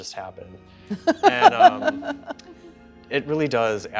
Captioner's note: chuckles